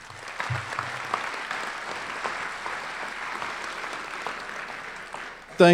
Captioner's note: applause